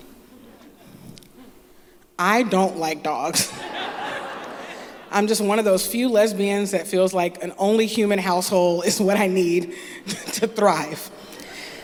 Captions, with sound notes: (Laughter) I don't like dogs. (Laughter) I'm just one of those few lesbians that feels like an only human household is what I need to thrive.